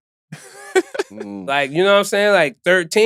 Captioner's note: laughing